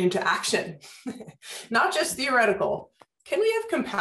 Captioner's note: laughter